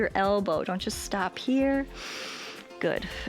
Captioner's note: inhales